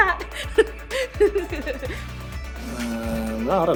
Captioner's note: laughs